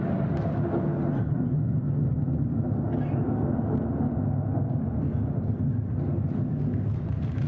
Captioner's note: thunder